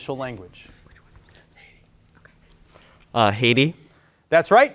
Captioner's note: group whispering